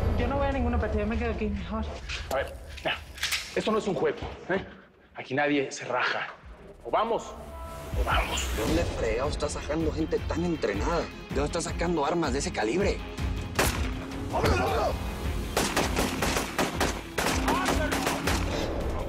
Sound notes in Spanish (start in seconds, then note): 13.5 Disparo; 15.4 Disparos